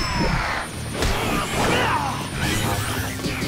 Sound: grunting

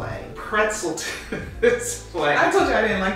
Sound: laughing

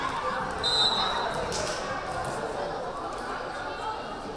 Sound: whistle blaring

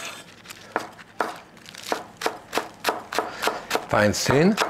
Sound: Jacques chops steadily

